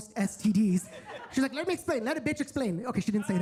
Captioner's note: attendees laughing